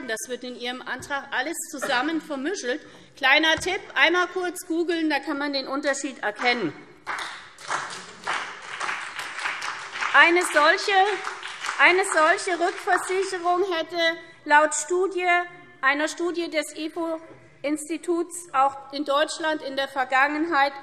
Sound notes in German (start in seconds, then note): 7.0 Beifall SPD und BÜNDNIS 90/DIE GRÜNEN